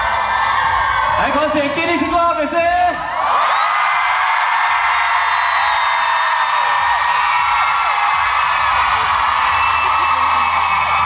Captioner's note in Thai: ปรบมือ